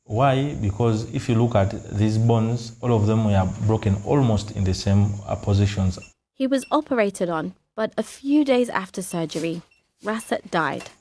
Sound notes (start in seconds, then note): none